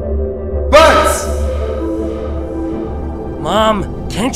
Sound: echos

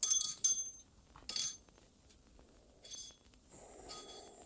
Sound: door bell jingling

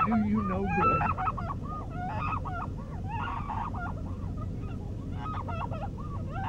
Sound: muffled screaming

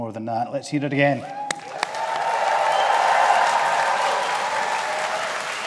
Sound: audience applauding

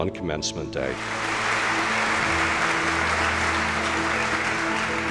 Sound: applause

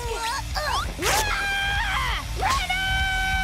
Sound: screaming

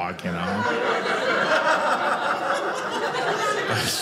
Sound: audience laughing

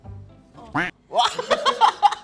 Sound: duck sound; happy noises

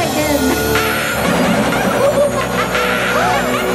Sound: laughing; gasping

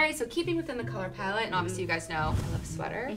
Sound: air whooshing

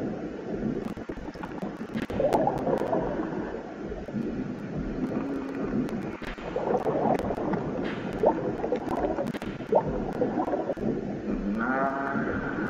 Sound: sound of submarine

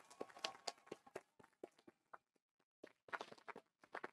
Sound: audience applauding

